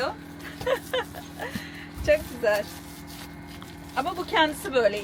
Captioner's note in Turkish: kahkaha